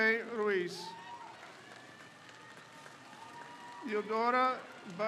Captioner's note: crowd cheers